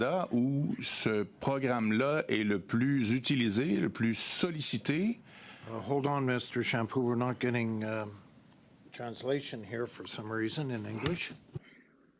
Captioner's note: speaking French